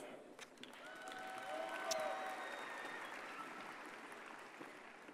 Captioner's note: audience cheers and applauds